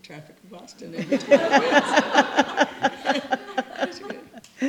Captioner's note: laughter